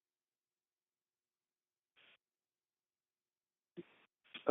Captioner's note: silence